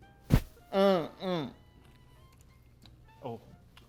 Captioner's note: grunting; instrumental music